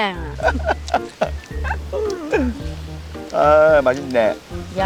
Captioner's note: both laughing